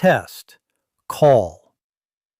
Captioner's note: pause